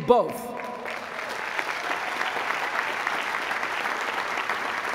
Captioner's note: applause